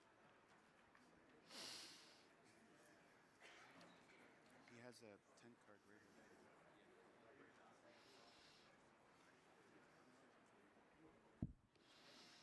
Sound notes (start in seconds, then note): 7.4 crowd chattering